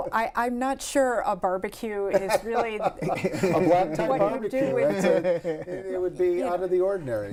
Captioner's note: laughter